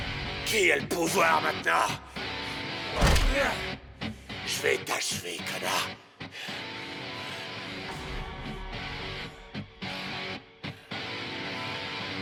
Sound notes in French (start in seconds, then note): 3.2 Esteban grogne; 6.3 la musique rock intense continue